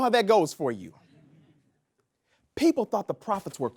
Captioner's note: audience laughs